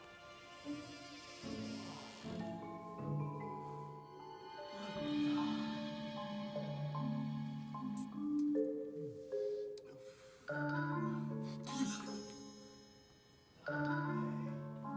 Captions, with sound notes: - OH. [sniffs] OOF. YEESH. NO WAY.